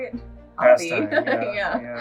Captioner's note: giggles